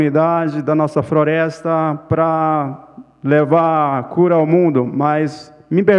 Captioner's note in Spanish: Ponente habla en portugués